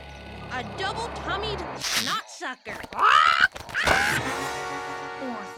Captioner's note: underwear squeaks; bird squeaks